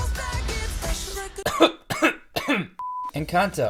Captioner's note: cough cough cough